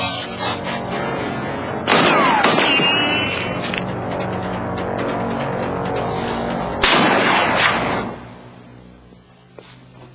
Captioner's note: gunshots